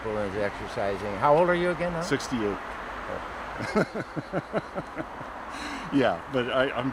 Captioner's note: laughter